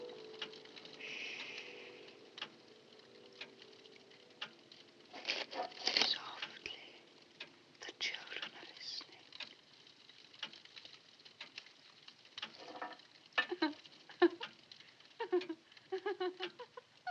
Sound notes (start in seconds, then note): 9.3 ticking continues; 13.1 woman laughing